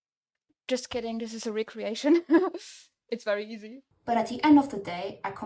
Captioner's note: laughs